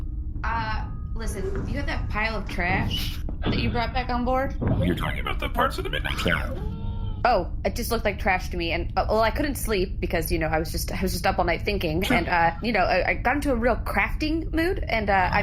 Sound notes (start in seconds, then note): 4.8 quiet laughter; 8.7 talking faster